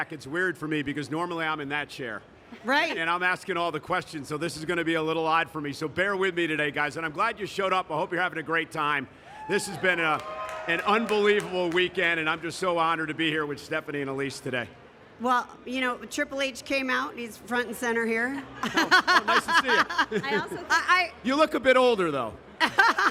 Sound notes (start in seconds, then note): 18.6 laughing; 22.6 Steph & Michael laughing